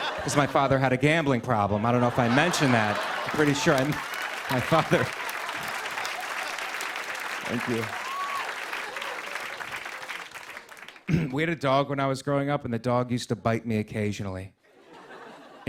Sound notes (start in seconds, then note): 4.4 applause; 8.2 cheers and applause; 11.0 clears throat